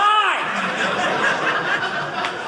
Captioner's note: audience laughing